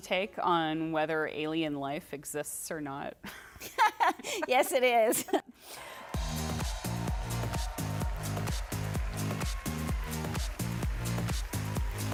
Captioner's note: laughs